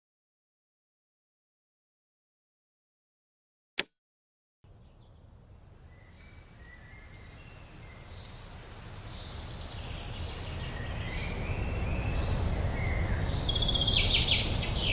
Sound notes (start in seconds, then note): 3.4 birds chirping